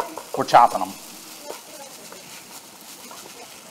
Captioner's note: sizzling